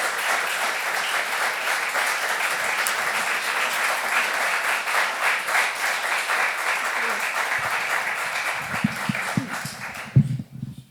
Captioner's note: applause